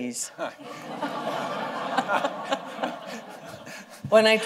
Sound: laughter

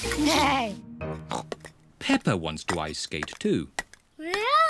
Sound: snorts

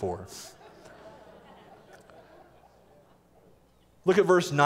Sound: laughter

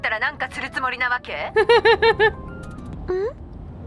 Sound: chuckles

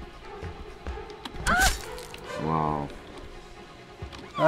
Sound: counselor crying out; counselor shrieking

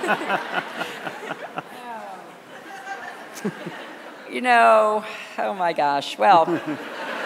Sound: laughter

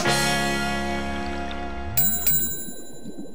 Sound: bell chimes

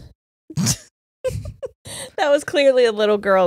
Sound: both laughing

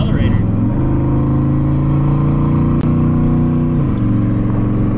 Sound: engine revving

